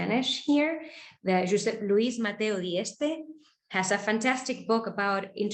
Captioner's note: speaking foreign language